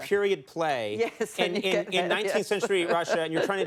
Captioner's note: laughs